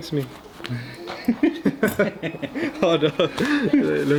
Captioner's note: laughing